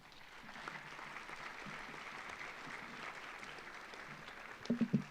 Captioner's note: audience applauds